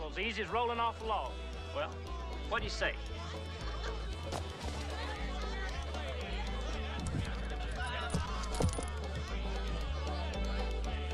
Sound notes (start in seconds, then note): 3.7 crowd bustling; 7.9 metal clinking